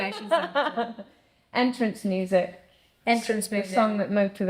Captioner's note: laughs